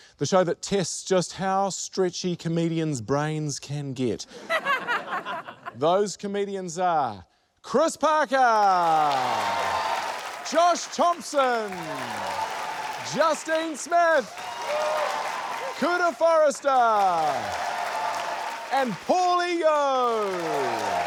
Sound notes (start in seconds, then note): 4.3 laughter; 8.8 applause; 11.8 applause; 14.4 applause; 17.0 applause; 20.1 applause